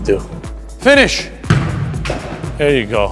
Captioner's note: ball bouncing